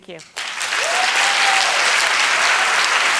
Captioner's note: applause